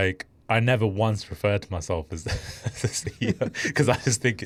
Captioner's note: laughing